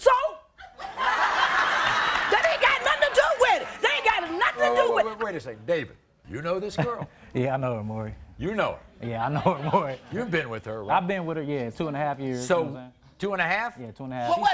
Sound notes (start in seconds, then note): 0.7 crowd laughs; 7.5 chuckles